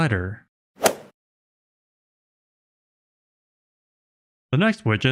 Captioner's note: golf ball hit sound effect